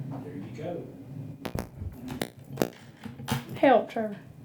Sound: microphone pops

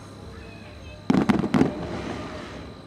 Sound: fireworks popping

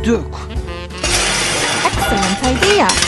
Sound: crash

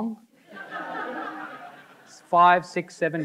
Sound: audience laughing

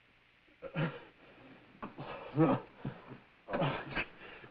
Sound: man panting

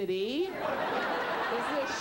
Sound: audience laughs

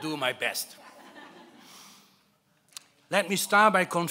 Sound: laughing

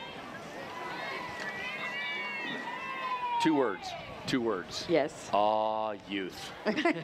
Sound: cheering

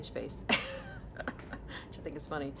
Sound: chucking

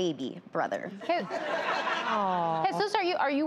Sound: audience laughs

